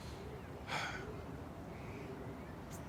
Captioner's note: he sighs